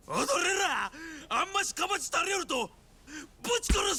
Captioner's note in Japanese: 叫び声